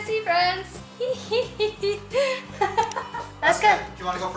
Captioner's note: laughter